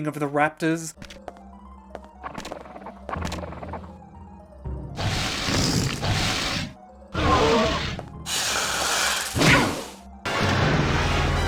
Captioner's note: Raptor sound design medley